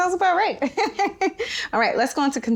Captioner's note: laughing